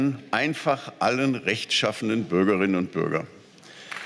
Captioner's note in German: Beifall